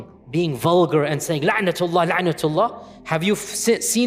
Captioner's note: Arabic